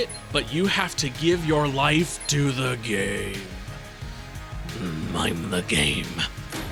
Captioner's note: grunt